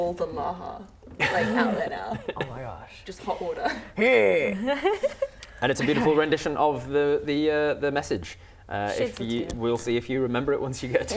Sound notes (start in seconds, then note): 4.6 laughs